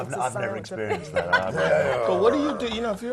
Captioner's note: laugh